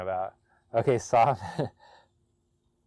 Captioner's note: laughs